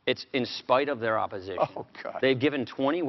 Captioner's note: chuckles